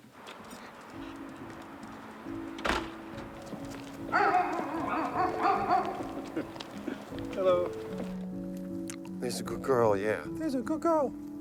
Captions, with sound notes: (door thuds) (dog barking) Hello. There's a good girl. Yeah, there's a good girl.